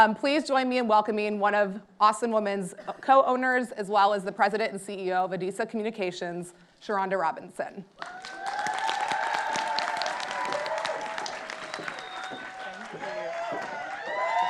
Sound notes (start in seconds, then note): 8.0 audience applauding